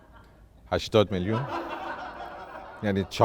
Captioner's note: laughter